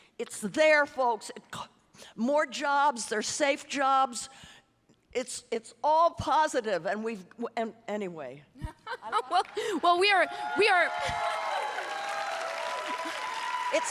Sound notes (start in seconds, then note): 8.6 laughing; 10.2 audience applauding and cheering